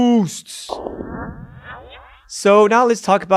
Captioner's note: electronic echoing